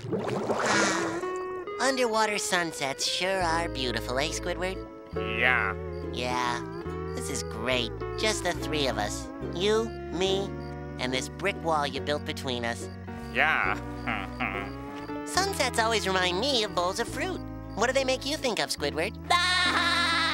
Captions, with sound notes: Ah! Underwater sunsets sure are beautiful. - Eh, Squidward? - Yeah. Yeah... this is great, just the three of us. You, me, and this brick wall you built between us. Yeah. [chuckles] Sunsets always remind me of bowls of fruit. What do they make you think of, Squidward? [laughing]